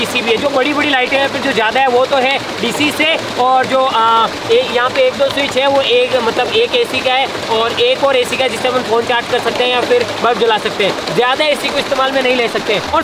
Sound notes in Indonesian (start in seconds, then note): none